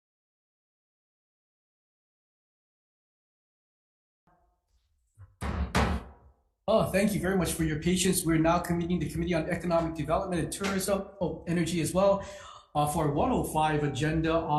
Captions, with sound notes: (gavel bangs) - Oh, thank you very much for your patience. We're now convening the Committee on Economic Development and Tourism, oh, Energy as well, for 1:05 agenda